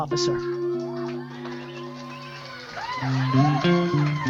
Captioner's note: audience applause